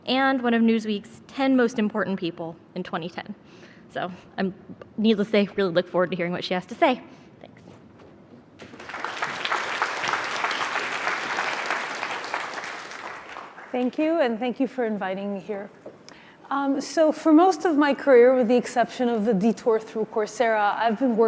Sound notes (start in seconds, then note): 8.6 audience clapping